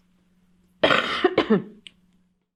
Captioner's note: coughs